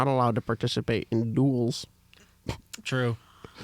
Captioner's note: laughs